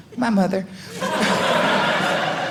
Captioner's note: audience laughing